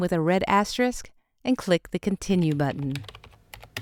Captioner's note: typing